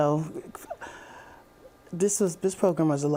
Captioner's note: chuckling